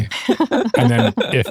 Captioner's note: laughing